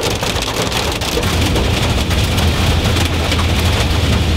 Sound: hail pattering

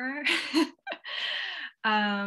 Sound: laughs

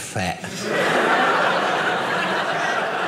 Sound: audience laughing

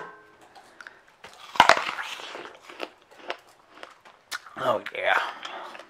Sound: apple crunches

